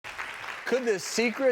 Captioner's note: audience clapping